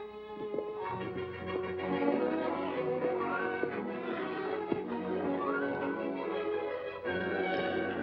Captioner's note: hooves trotting; music turns upbeat; music turns dramatic